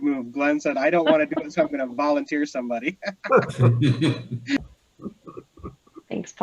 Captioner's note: laughs